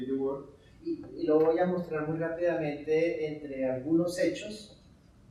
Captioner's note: speaking in Spanish